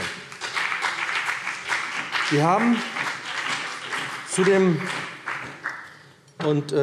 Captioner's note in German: Beifall BÜNDNIS 90/DIE GRÜNEN und CDU